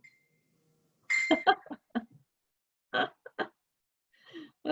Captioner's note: chuckles